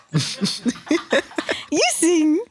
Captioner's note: all laugh